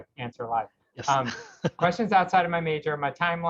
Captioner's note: laughs